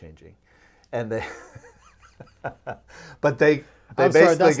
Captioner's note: laughing